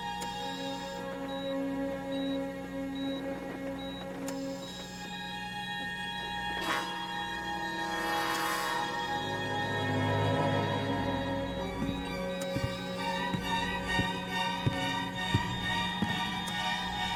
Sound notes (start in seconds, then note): 3.7 heart monitor beeping faster